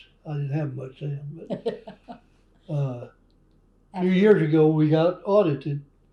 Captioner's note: laughter